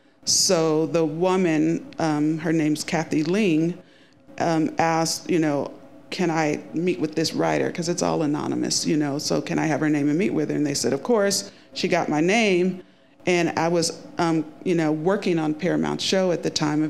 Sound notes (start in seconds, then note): none